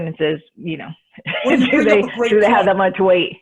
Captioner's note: laughs